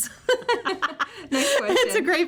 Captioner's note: both laugh